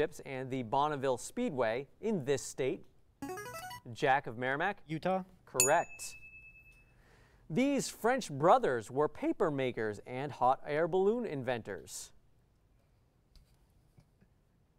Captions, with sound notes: and the Bonneville Speedway in this state. [player buzzer] Jack of Merrimack. Utah? [ding] Correct. These French brothers were paper makers and hot air balloon inventors.